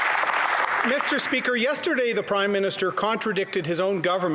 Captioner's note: applause